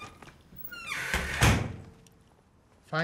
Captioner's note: door shuts